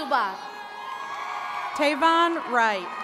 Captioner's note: attendees cheering